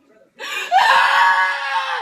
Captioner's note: inhale